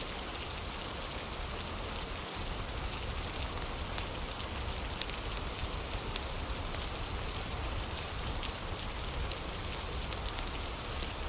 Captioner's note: fire crackling